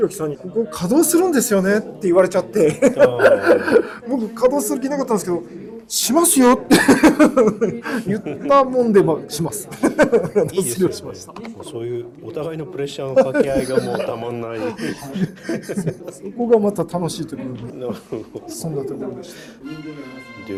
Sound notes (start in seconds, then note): 15.9 laughs